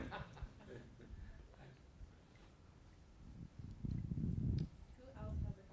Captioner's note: laughter